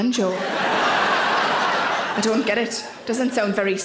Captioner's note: audience laughing